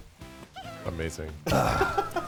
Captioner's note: players laughing